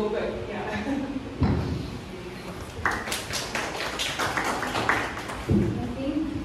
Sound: claps

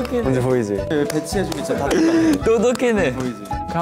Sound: clapping

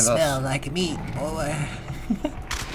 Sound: laughs

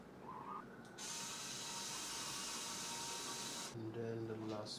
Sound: drill whirring

